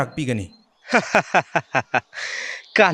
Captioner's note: laughing